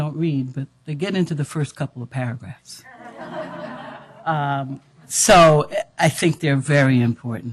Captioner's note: audience laughter